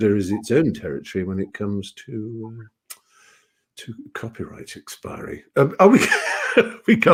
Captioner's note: laughs